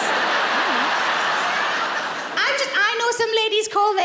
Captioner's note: laughing